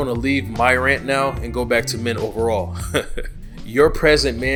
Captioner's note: laughs